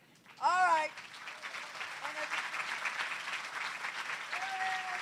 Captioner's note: applause